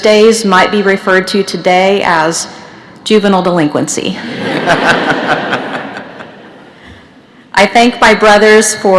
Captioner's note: laughter